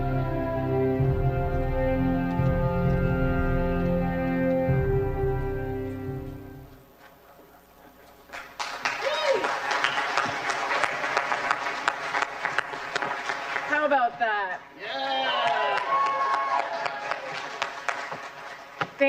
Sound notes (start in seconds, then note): 10.7 applause